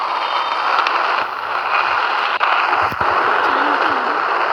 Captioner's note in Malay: Tepukan